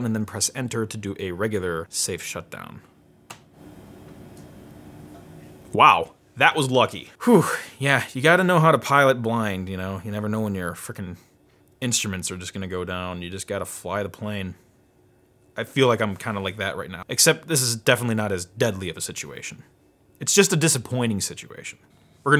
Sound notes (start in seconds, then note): 7.2 exhales